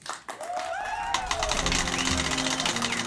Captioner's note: applause